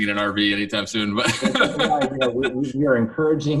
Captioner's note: laughing